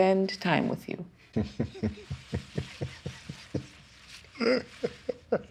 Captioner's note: laughter